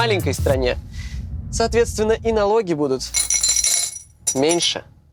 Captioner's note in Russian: звон монет